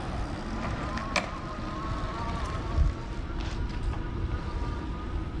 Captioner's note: bike engine roaring